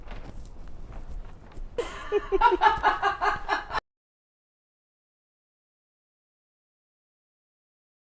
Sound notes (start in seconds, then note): 1.8 laughter